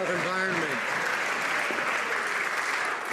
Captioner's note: some Applause